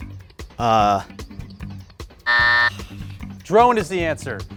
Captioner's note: buzzer sounds